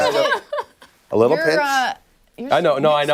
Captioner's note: laughter